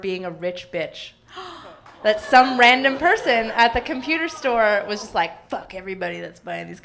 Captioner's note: gasping